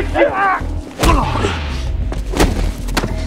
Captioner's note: head smack